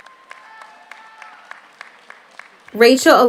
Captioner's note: audience cheers; audience applauds